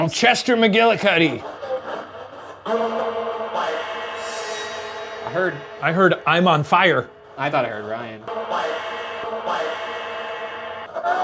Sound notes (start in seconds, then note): 3.4 device hisses and thrums; 8.4 device thrums